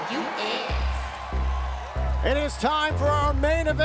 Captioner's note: crowd cheering